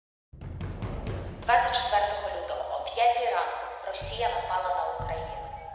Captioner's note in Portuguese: ucraniano